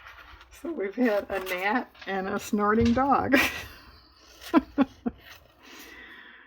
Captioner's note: laughs